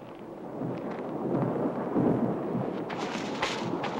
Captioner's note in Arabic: هدير الرعد